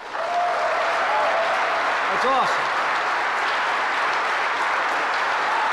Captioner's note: applause